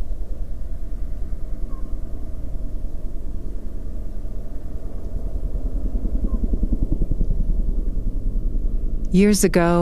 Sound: quiet ambient sound wind moving over the landscape

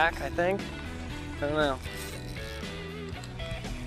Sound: none

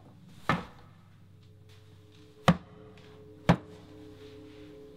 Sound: footsteps Approach

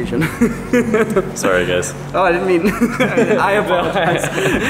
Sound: chuckling

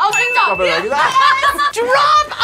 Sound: both laugh

